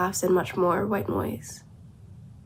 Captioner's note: none